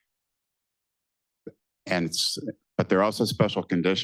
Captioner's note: none